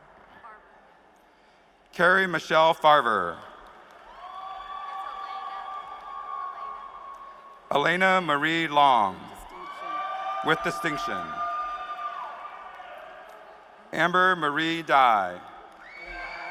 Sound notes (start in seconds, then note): 8.9 applause